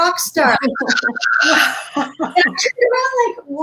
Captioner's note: imitating screaming crowd